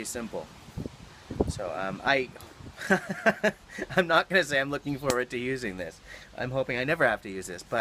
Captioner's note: laughing